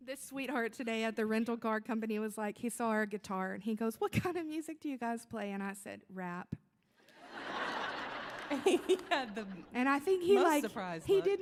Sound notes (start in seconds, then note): 7.2 audience laughing